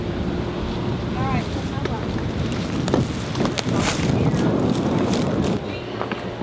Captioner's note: wind drowning out conversation